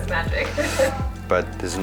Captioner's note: chuckles